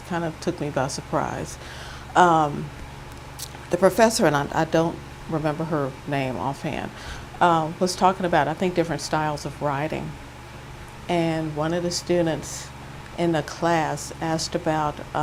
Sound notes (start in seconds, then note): none